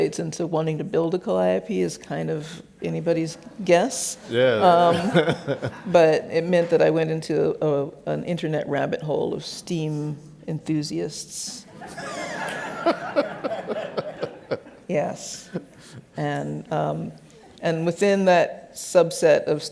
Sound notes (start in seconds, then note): 4.3 laughs; 11.8 laughs